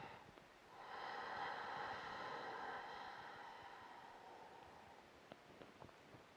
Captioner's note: breathing